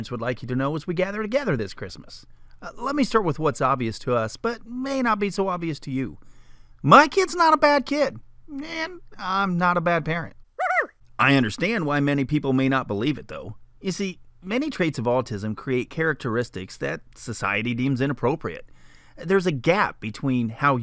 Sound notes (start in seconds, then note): 9.2 funny voice; 11.2 man's voice